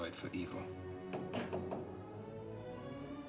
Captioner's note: knocking